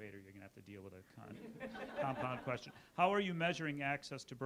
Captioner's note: audience laughs